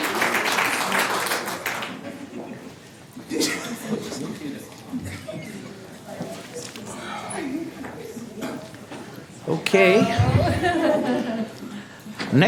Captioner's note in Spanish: Aplausos